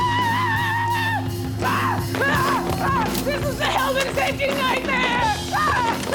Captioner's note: Desiree screams